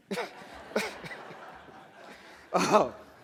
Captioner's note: laughter